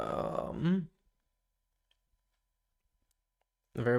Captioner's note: silence